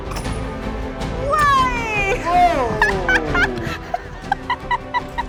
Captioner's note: laughs